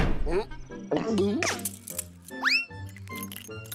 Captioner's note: gulps; metal clanks